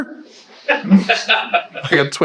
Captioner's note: attendees laughing